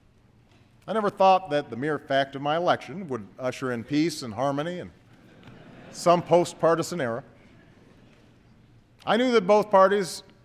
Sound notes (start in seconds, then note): 5.2 laughter